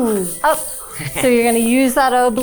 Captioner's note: chuckling